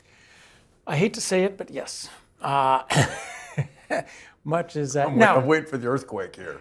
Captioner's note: laugh